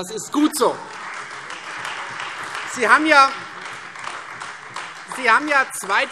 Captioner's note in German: Beifall Freie Demokraten